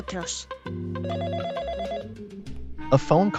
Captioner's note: FX - Office Phone Ring